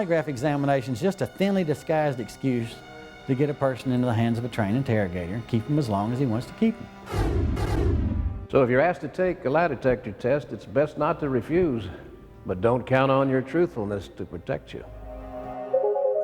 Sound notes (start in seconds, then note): 7.0 dramatic sound effect